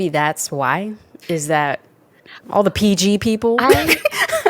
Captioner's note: laughs